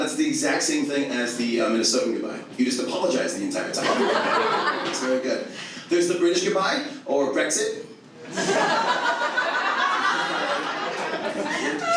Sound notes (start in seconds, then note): 3.8 audience laughs; 8.3 audience laughs